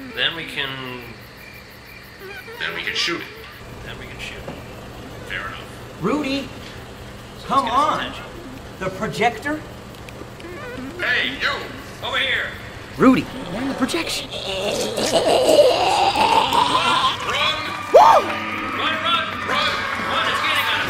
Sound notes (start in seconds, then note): 16.1 alien choking